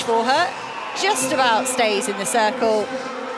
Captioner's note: applause